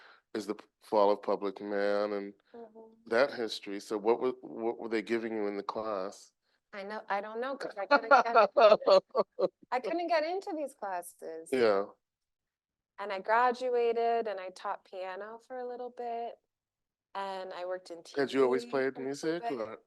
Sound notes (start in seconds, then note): 7.7 laughing